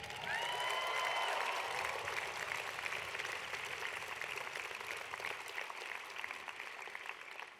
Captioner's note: applause